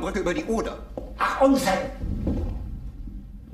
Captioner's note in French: parlant un anglais clair